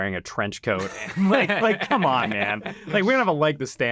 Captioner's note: group laughing